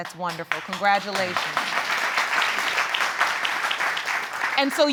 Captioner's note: audience applauding